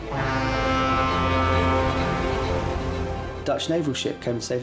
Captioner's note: ship horns honking